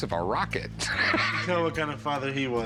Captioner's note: laughs